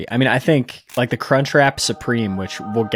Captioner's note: screen clicking; choir singing